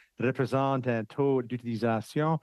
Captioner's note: speaking French